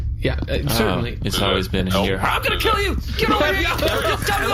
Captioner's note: screaming